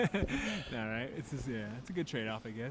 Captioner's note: chuckling